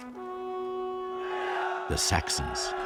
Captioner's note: horn sounding; chanting